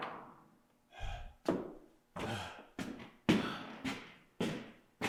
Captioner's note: board thuds; Jacob panting